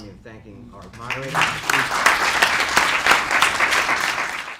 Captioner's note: clapping